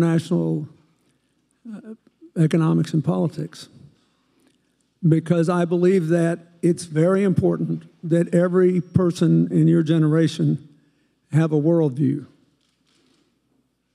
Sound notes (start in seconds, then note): none